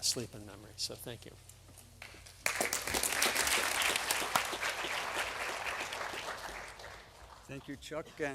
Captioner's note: applause